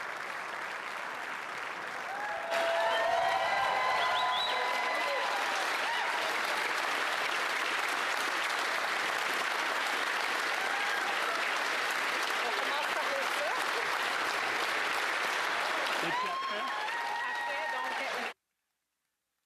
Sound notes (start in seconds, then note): 0.3 applause; 6.3 cheering and applause; 19.2 cheering and applause